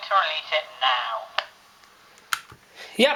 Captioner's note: click as recording stops, another click from turning the dictation machine off